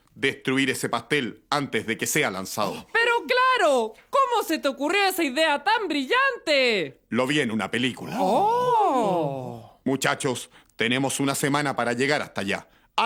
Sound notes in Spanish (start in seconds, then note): 8.7 surprised